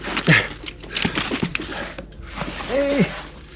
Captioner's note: grunting